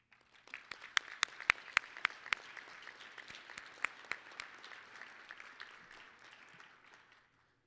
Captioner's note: applause